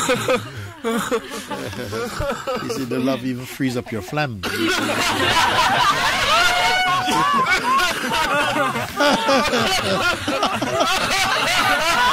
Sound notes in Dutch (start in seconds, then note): 7.8 gelach